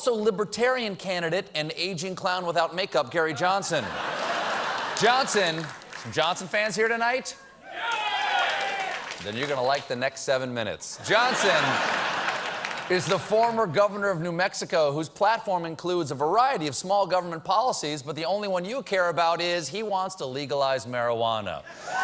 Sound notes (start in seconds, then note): 7.6 cheering; 11.0 laughter